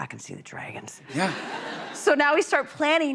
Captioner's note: laughter